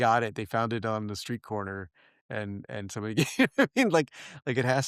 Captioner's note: laugh